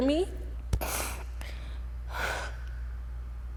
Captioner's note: sobs